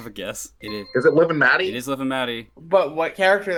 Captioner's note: buzzer